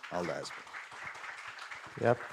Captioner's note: applause